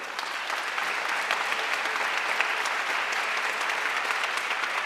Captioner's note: audience applauding